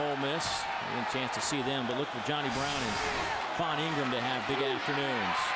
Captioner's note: crowd noise